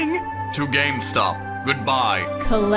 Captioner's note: Yami voice